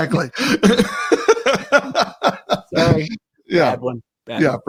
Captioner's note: laughs